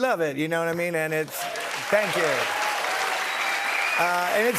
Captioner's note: cheers and applause